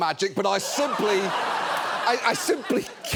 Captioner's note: audience laughs